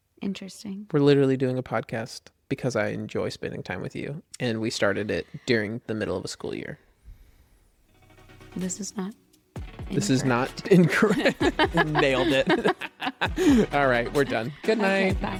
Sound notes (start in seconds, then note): 10.0 laughs